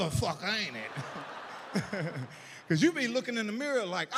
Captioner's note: audience laughs